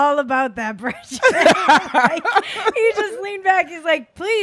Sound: laughing

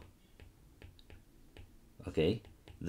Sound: screen tapping

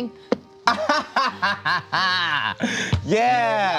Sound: laughs

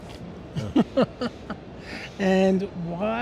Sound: both laugh

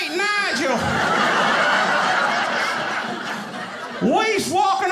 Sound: audience laughing

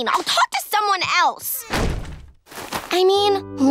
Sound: door slamming

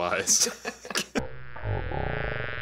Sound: laughs; buzzing

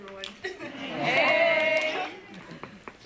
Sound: laugh

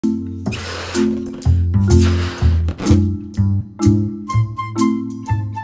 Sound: blowing; bright music

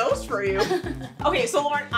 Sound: girls laughing

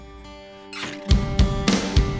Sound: door opens

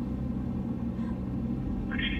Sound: wind blowing

